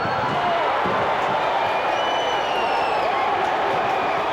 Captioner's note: crowd cheers